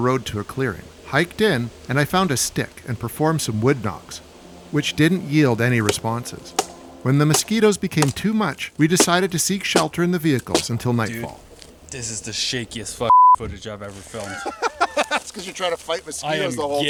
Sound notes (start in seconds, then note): 13.1 beep; 14.3 laughs